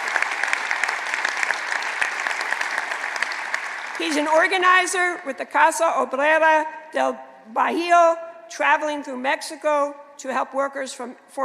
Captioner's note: applause